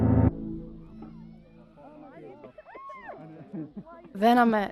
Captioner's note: faint sound of children playing in the distance and people talking at park